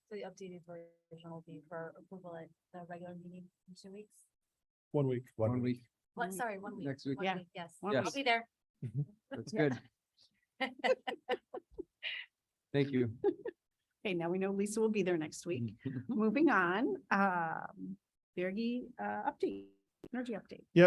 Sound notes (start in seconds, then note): 10.6 laughing